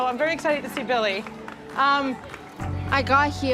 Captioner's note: clapping